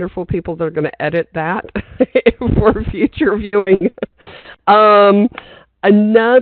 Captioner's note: laughing